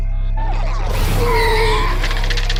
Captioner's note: alien shrieks